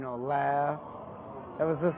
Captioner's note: crowd